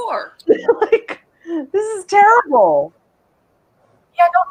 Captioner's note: laughs